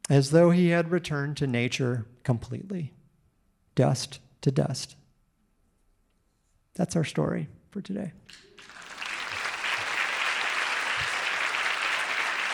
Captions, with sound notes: As though he had returned to nature completely, dust to dust. That's our story for today. (audience applauding)